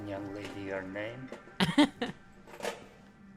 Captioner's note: giggle